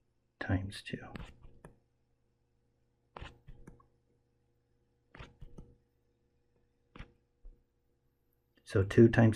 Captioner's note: tapping Sounds